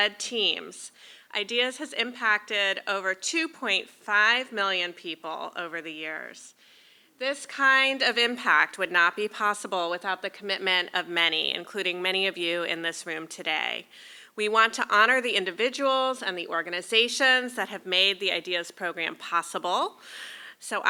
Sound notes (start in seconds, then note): none